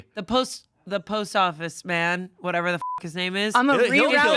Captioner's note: beep